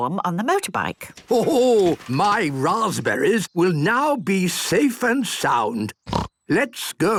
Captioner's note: snort